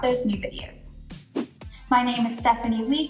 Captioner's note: air whooshes